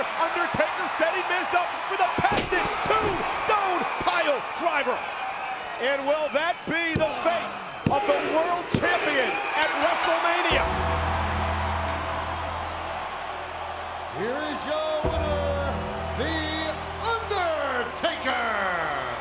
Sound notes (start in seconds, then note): 9.6 bell dinging; 10.6 crowd cheering